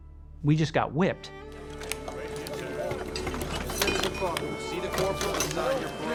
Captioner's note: chatter